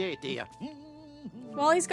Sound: goofy Humming

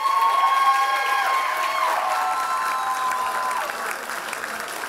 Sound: loud applause and cheers

